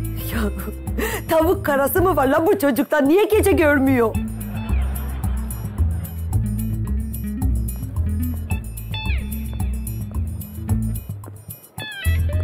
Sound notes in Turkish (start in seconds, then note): 4.1 Gülme efekti